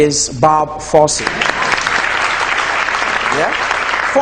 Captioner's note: audience clapping